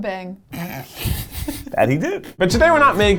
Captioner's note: laughing